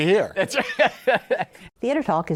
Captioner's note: laughs